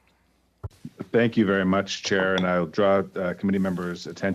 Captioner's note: speaking French